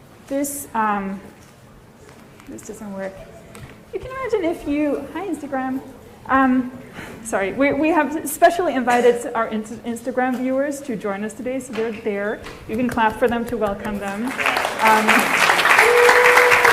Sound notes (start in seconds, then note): 14.1 applause